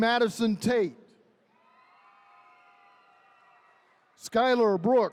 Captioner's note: attendees cheering